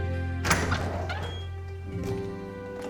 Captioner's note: door opens